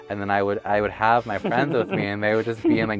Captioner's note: laughs